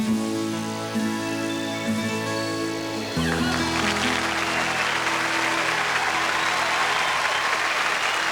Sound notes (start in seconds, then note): 3.2 applause